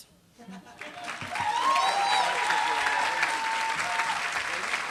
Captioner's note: applause